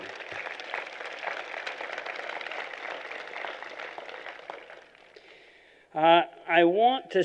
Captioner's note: applause